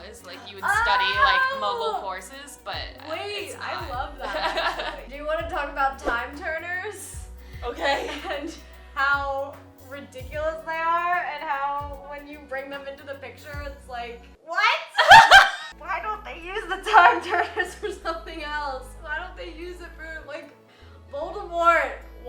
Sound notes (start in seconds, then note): 15.0 laughs